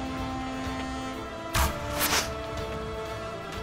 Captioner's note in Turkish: Ok fırlatma sesi